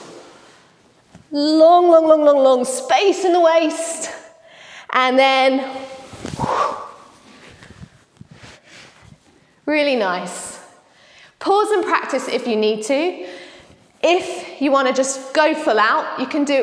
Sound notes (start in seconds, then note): 0.3 whoohhh; 7.8 whhooh